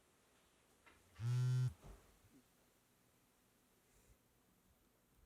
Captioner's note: phone buzzes